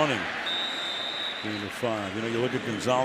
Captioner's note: whistle